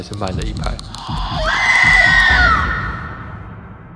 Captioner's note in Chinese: 女鬼尖叫聲